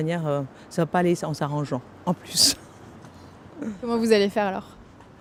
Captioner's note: laughter